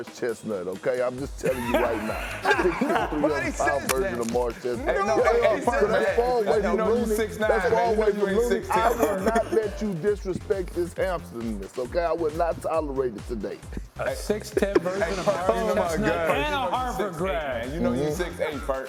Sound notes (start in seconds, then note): 8.4 laughter